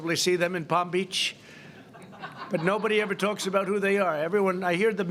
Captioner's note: laughter